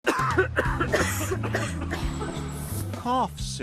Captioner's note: coughing